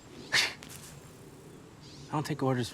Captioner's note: scoffs